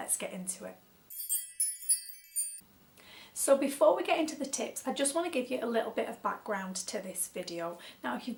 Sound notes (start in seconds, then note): 1.1 tinkling bell noise